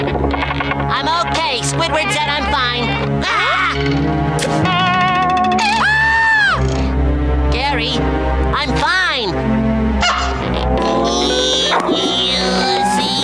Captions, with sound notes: I'm okay. Squidward said I'm fine. Ah! [shrieking] Gary, I'm fine. [grunting]